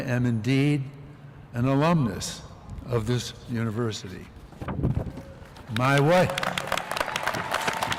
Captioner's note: applause